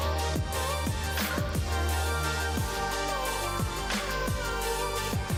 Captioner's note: machine whirs